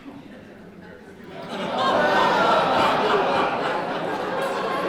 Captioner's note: laughter